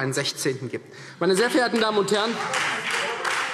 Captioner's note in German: Beifall – Zurufe